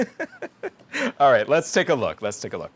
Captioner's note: laughs